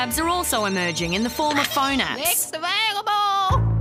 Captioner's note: phone rings